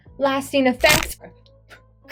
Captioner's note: crack